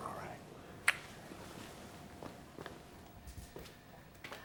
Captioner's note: gently smooching